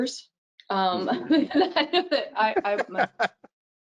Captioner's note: laughing